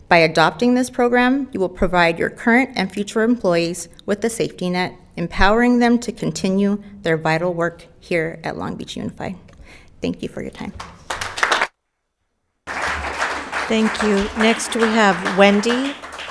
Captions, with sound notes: By adopting this program, you will provide your current and future employees with the safety net, empowering them to continue their vital work here at Long Beach Unified. Thank you for your time. (audience applauding) - Thank you. Next we have Wendy.